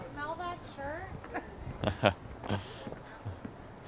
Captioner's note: Dave laughs